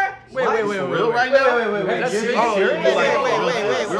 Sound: overlapping chatter

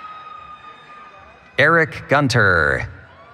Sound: cheering

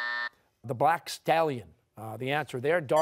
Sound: buzzer sounding

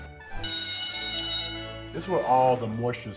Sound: bell rings

